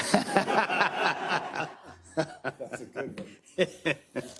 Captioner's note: council laughing